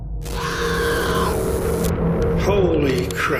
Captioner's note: screaming